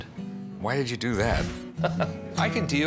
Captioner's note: laughs